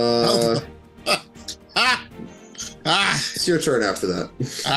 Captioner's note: laughs